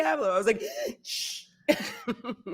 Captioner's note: gasps